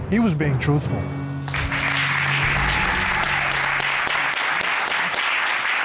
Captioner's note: applause